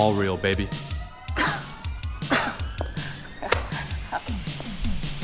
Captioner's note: Scoffs at Riot